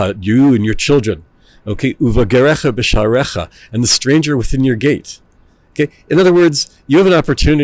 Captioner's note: Hebrew; Hebrew